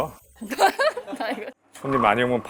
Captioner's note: haha